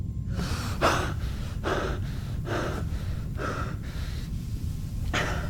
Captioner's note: Patient 119 breathing heavily